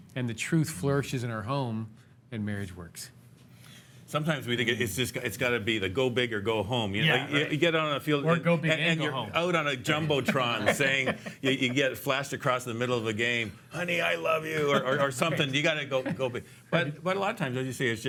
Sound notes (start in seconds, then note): 9.9 laughs